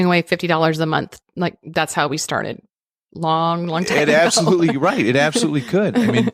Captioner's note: chuckles